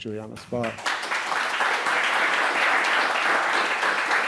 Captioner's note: applause